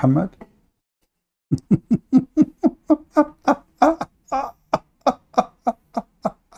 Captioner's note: Ketawa